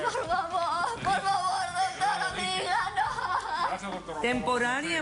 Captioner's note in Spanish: Sollozos